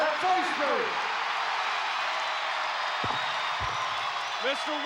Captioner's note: audience cheering